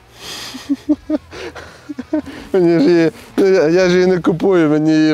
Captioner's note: laugh